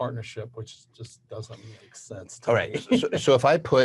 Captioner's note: chuckles